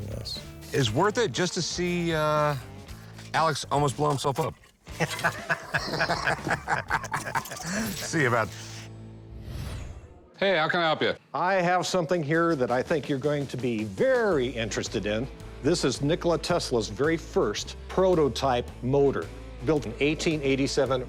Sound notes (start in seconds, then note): 4.9 laughter